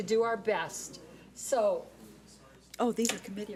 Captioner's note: man speaks off mic